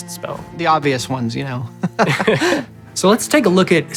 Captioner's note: chuckles